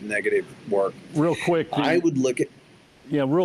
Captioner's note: pat